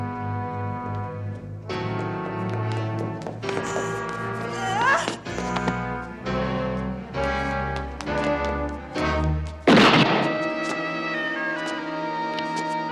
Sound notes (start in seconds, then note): 4.6 grunts; 9.6 gunshot